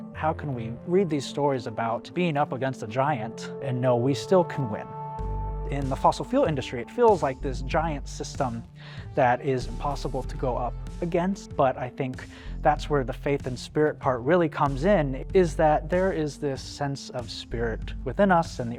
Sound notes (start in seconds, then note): none